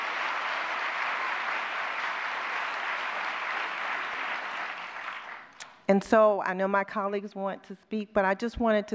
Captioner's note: applause